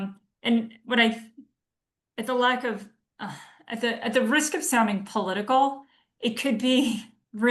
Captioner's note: sighs